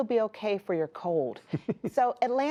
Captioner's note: laughter